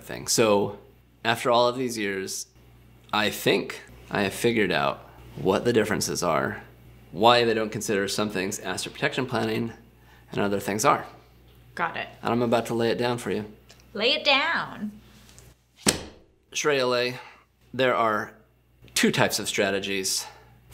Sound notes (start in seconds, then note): 15.8 book slamming